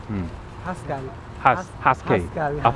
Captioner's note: somali